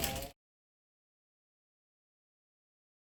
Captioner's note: audio Muted